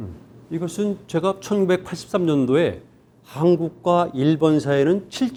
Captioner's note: speaking in Korean